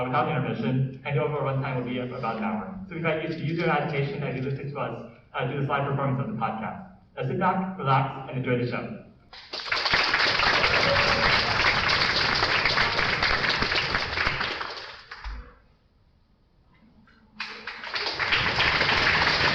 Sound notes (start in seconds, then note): 9.3 applause